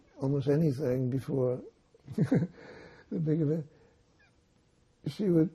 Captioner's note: laughing